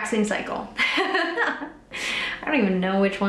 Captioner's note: laughing